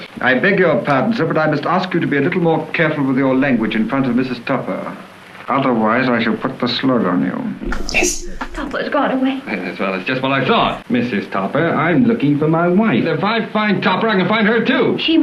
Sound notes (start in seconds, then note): none